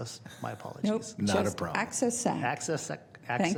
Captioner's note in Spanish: risas